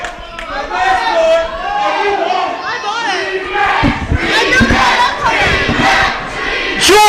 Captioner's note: fans chant 'rematch'